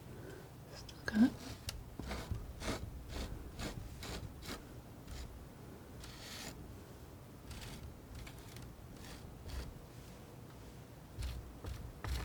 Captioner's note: scratching